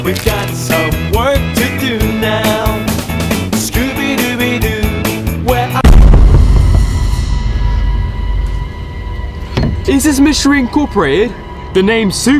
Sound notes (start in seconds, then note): 5.8 suspenseful music; 5.9 film stutters